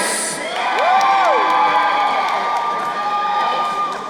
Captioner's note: crowd cheering